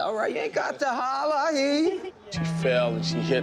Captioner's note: chuckles